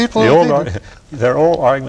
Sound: laughter

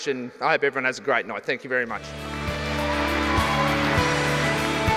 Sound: applause

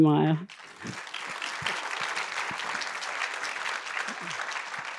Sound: applause

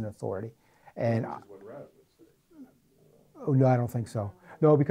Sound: voiceover

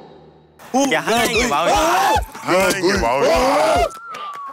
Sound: balloon also explodes

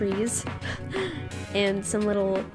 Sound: laughs

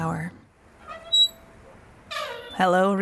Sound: brakes squealing

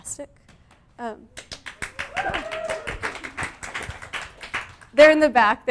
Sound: audience clapping

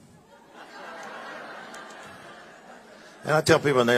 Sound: congregation laughing

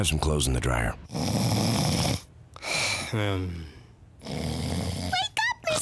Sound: snoring

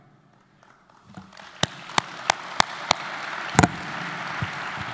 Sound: audience applauding

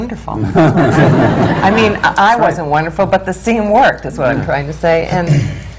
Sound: laughter

